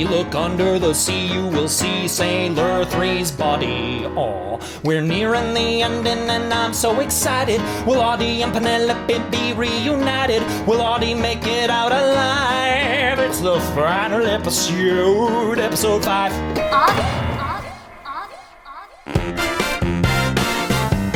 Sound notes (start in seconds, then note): 17.3 voice echoing